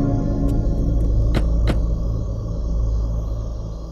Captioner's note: Car door closes